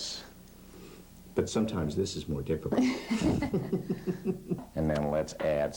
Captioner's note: laughter